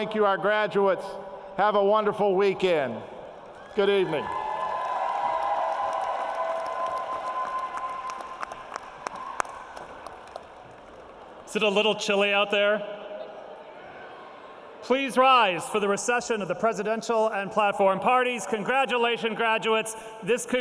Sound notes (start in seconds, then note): 4.1 applause; 12.8 crowd responds